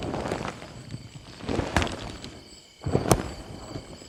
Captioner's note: wood cracking; brush rustling